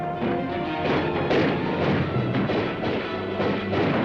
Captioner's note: dramatic music; guns firing; dramatic music